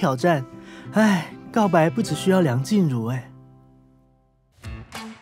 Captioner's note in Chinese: 嘆氣